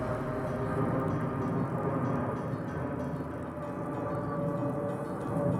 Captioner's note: plane engine roars